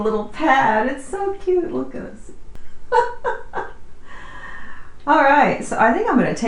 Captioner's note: laughs